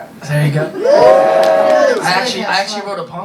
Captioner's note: audience applause